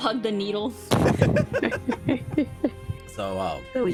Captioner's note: laughing